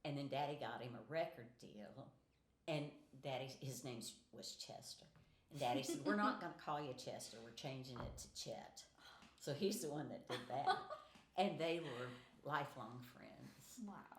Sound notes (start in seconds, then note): 10.3 laughing